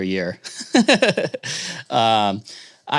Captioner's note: laughs